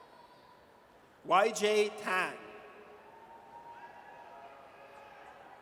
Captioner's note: audience cheers